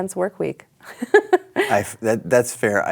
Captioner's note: laughs